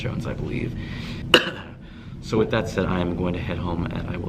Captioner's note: coughs